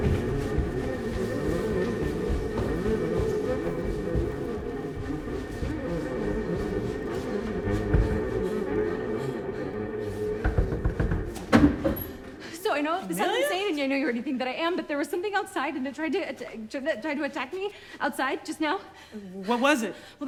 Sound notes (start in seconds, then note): 10.1 door opens; 10.4 knocking on door